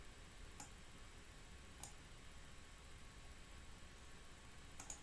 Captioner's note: mouse clicking